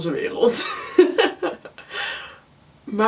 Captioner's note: laughs